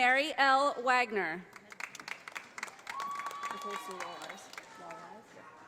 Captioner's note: audience applauding